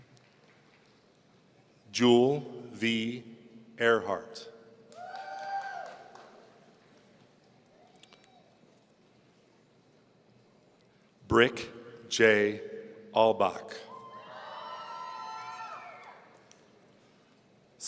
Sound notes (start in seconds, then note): 5.0 man cheering; 13.9 audience cheering